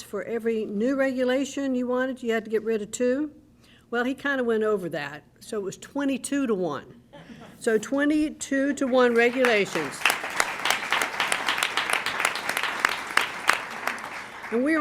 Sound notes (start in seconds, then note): 7.1 laughter; 8.8 applause